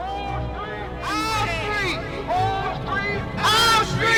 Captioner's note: people protesting